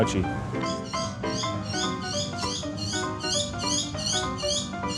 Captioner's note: birds chirping